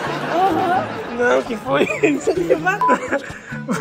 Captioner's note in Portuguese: risos; risadas